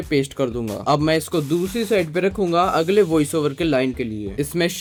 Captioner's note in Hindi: नाक से की जाने वाली आवाज़